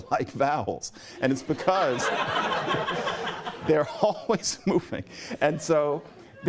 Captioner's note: laughter